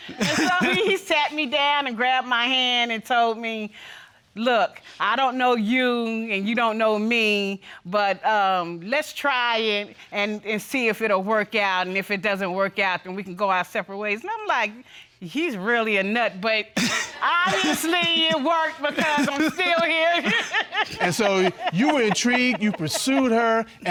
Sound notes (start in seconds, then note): 20.0 laughing